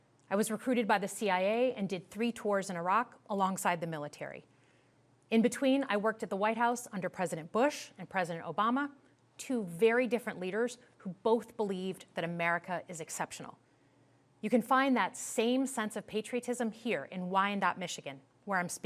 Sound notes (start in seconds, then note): none